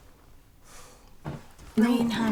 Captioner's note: sighs